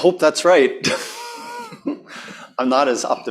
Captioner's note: laughs